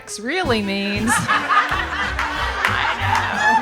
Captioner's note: audience laughing